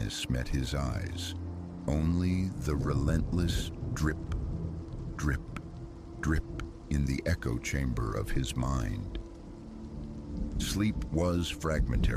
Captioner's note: drip… drip… drip